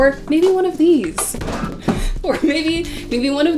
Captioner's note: book crashes on floor